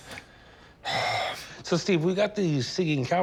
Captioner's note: sighs